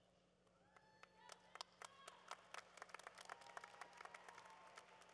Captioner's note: cheering